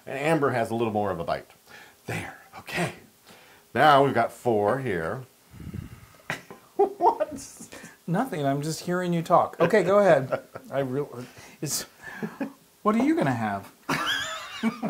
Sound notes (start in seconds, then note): 6.7 laugh; 9.6 laugh; 13.9 laugh